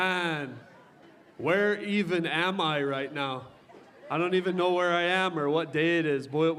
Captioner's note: cheering